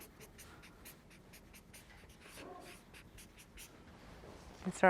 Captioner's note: marker scribbles